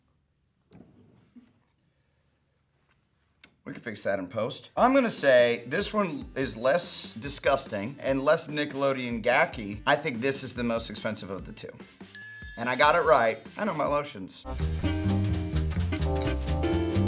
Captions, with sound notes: We can fix that in post. I'm gonna say this one is less disgusting and less Nickelodeon Gak-y. I think this is the most expensive of the two. (bell dings) And I got it right. I know my lotions. (jazz music)